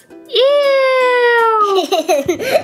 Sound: giggles

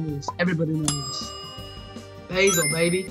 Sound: timer ding

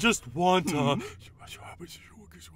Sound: whispering

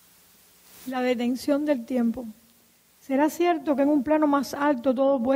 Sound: speaking in Spanish

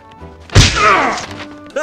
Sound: table Slam

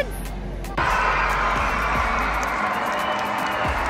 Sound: crowd cheering

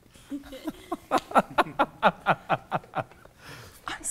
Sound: people laughing

